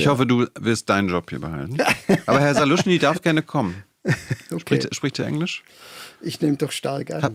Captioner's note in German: gelächter